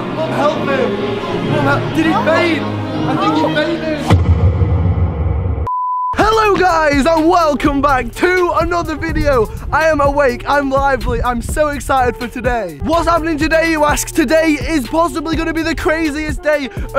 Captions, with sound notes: Someone help him! Did he faint? (dramatic bass) (beep) Hello guys and welcome back to another video! I am awake, I am lively, I am so excited for today. What's happening today you ask? Today is possibly gonna be the craziest day